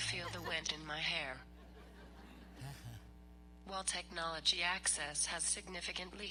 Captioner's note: laughter; laughter